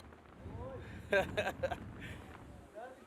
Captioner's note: laughs